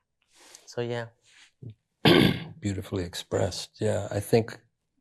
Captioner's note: clears throat